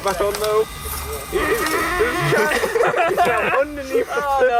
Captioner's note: un-reproducable sounds of excersion